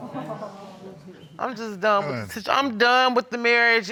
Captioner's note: crowd sympathetic